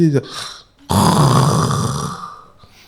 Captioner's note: snores